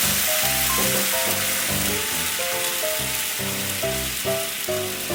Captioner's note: sizzle, sizzle